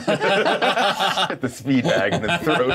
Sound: co-hosts laughing

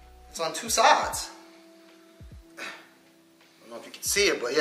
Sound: grunts

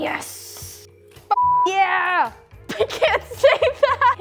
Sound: beep

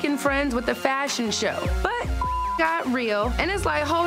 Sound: beep

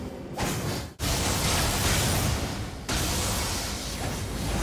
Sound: lightning clashing

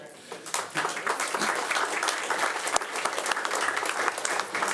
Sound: audience applauding

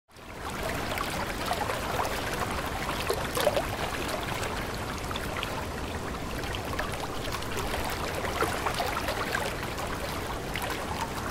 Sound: rippling Waterway Sounds

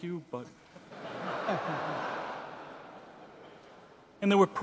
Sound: audience laughing

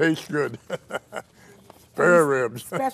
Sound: laughing

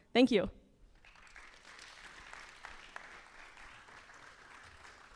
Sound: applause

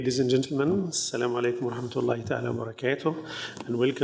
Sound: speaking in foreign language

